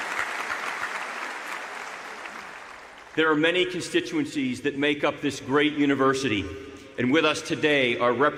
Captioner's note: applause